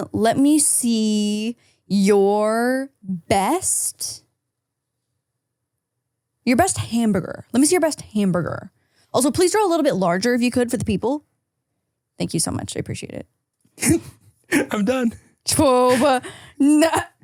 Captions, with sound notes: - Let me see your best... Your best hamburger. Let me see your best hamburger. Also, please draw a little bit larger if you could for the people. Thank you so much. I appreciate it. - (laughs) I'm done.